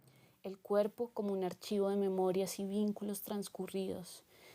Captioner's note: speaking in foreign language